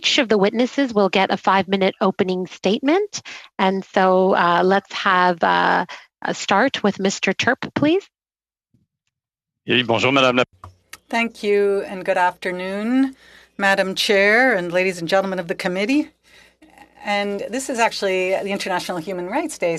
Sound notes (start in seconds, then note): 14.2 speaking French